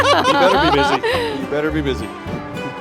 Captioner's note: laughing